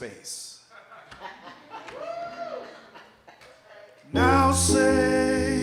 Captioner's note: audience laughing; audience cheering